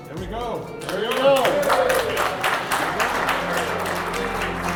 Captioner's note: applause